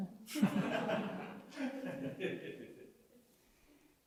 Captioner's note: laughter